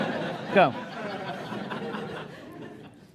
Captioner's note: laughter